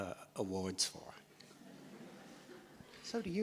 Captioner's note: audience laughs